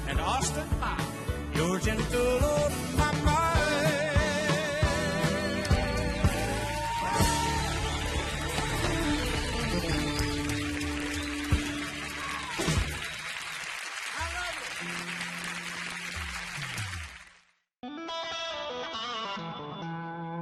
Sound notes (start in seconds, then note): 7.6 audience cheering and applauding; 17.7 soft music